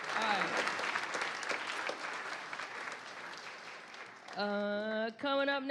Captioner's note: applause